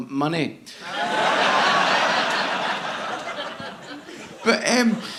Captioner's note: audience laughing